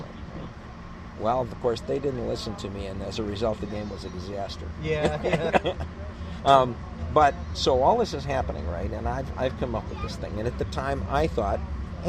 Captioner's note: laughs